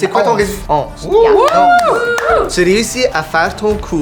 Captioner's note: clapping